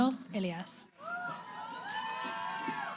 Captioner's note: cheering